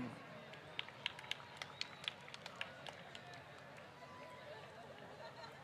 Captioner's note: applause